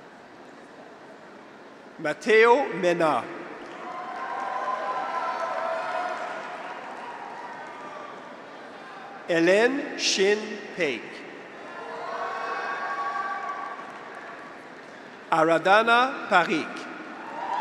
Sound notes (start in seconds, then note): 3.7 audience applauds; 3.7 graduates cheer; 11.6 graduates cheer; 12.0 audience applauds